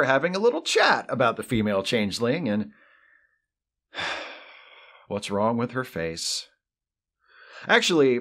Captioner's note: sigh